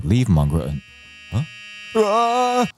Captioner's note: distance Beeping Sound Approaching